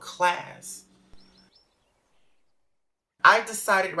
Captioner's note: bird chirping